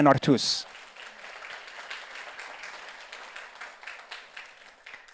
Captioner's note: audience applauds